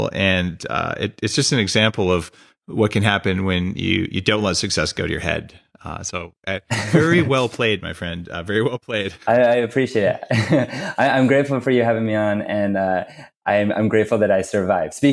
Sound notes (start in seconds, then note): 6.6 laughs; 10.2 laughs